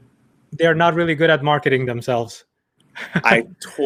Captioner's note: chuckles